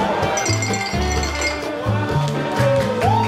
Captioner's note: glass clinking; crowd cheering